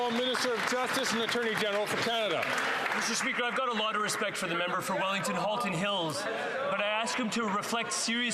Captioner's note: some Applause